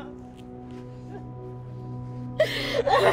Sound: weeping

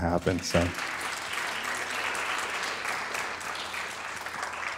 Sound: audience applauds

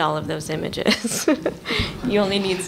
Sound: laughter

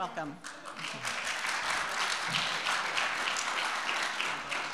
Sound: audience applauding

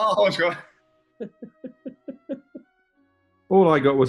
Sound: chuckling

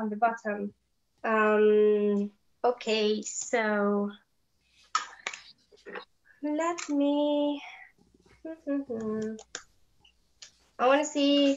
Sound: hums

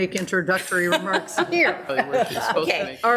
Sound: laughs

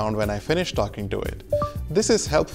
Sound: low beep

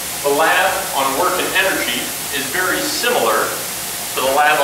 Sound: voiceover

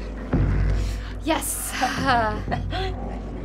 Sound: laughing in relief; gasping

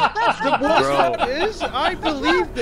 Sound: laughs

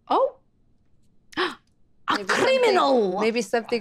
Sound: gasps

